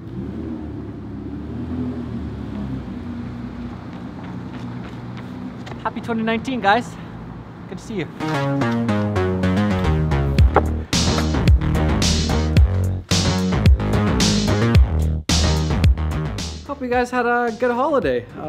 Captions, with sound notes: (car engine roaring) (footsteps) - Happy 2019 guys! Good to see you. (upbeat techno music) Hope you guys had a good holiday.